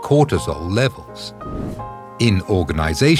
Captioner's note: air whooshing